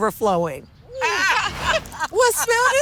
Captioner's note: laughter